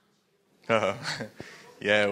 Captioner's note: laughing